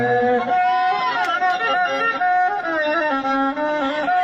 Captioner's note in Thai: ปรบมือ